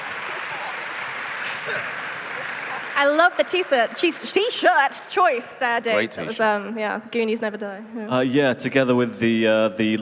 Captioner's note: cheers and applause